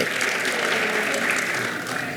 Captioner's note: clapping